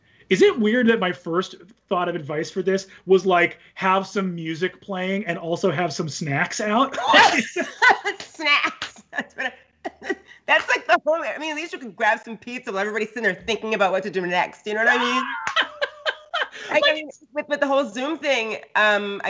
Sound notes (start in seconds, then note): 6.8 both laugh; 14.8 Brennan laughs